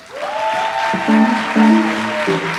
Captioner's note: audience applauds; light jazz music